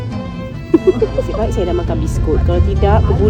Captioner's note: laugh